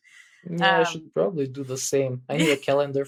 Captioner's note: <Laugh>